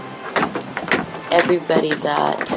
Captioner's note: tapping on the floor